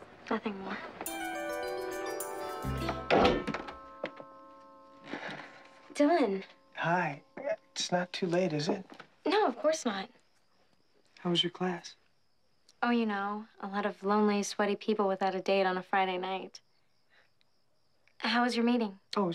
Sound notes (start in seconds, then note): 1.6 gentle music; 2.8 door creaks